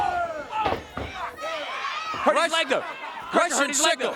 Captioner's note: crowd cheering